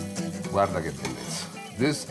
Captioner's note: lively guitar music; speaks in foreign language